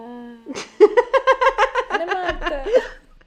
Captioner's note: laughs